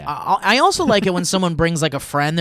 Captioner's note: laughing